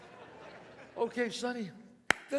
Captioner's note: claps